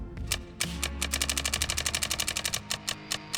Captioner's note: clicking sounds